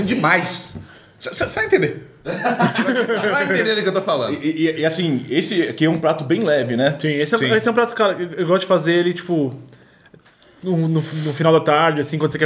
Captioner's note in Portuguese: risos